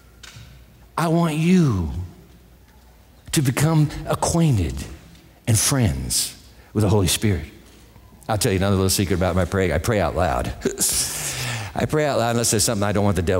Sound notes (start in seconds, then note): 10.6 chuckles